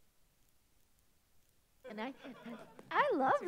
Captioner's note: audience laughs